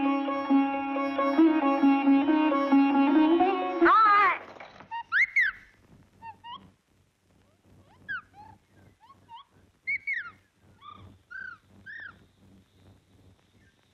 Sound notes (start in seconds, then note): 4.8 parrot Chirping